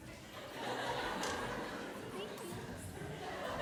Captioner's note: laughter